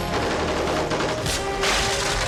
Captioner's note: rapid gunfire